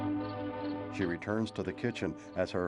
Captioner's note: none